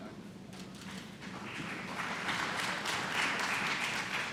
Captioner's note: applause